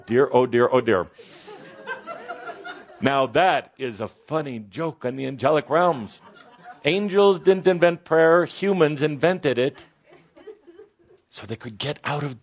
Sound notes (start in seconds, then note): 1.3 laughter